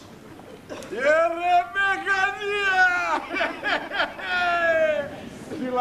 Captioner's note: γέλιο